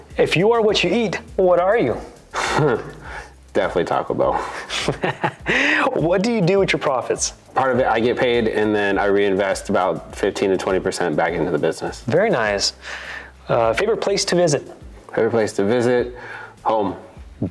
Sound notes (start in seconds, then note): 4.3 chuckles; 4.3 laughs